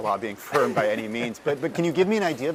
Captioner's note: laugh